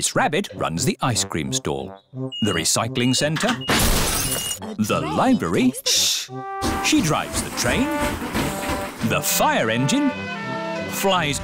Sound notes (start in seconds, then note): 5.9 chattering